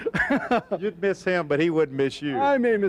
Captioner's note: laughing